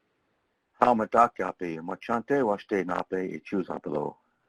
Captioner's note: foreign language